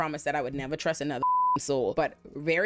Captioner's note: beep